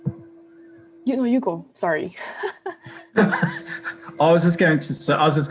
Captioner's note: laughs